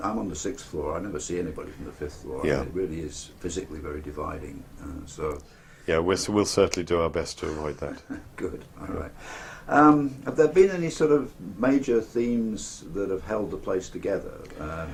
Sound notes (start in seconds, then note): 7.4 laugh